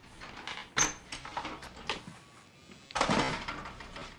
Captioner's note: door opening